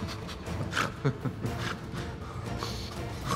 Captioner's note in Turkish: Gülme sesi